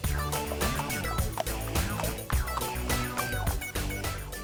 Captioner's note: horses trotting